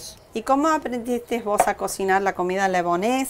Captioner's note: speaking spanish